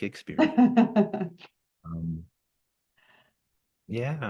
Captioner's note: laughing